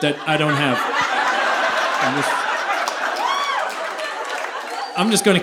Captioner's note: audience laughing